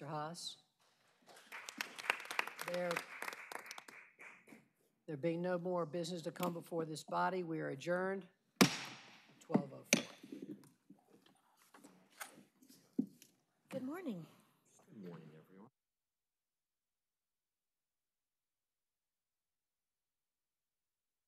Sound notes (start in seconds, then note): 4.1 applause